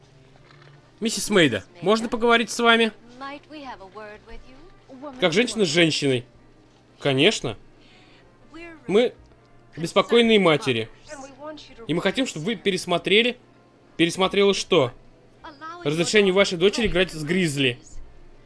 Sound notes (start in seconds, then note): none